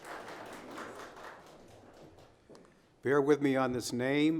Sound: audience applauding

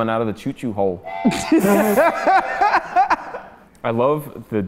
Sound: choo-choo whistle; laughing

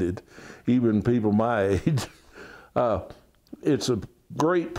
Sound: laughs

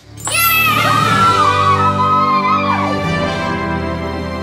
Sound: cheering

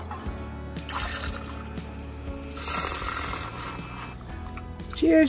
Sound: liquid sloshing

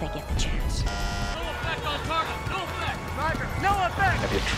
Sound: bzzzt

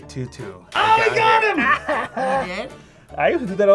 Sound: laughs

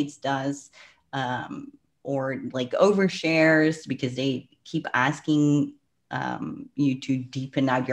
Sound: breath

